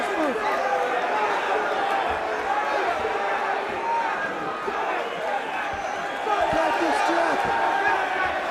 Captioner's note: crowd chatter